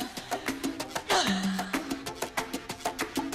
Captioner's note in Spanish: Quejido